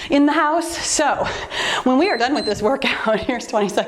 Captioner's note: timer beeps